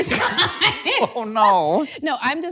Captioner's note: Akilah laughing